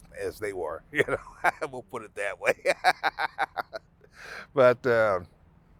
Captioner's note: laughing